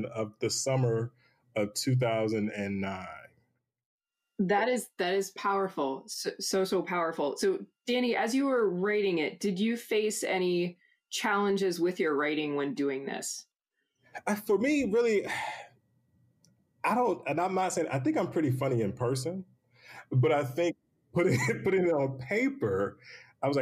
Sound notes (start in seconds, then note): 15.2 sighs; 21.2 laughs